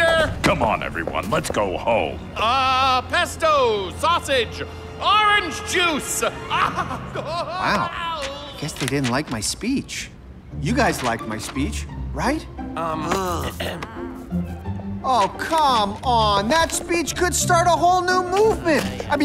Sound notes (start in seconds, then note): 6.2 laughing